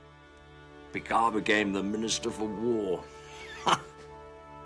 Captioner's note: chuckles